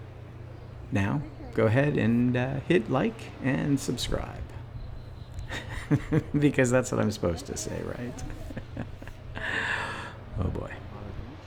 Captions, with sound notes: Now... go ahead and hit like and subscribe. [laughs] because that's what I'm supposed to say, right? [more laughing] Oh boy.